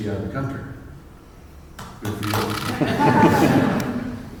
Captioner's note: claps